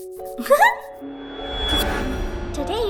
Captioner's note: doll giggling